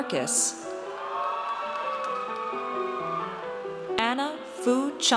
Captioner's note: audience cheers